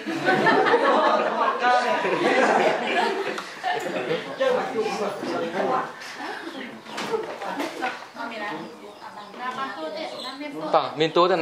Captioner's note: chattering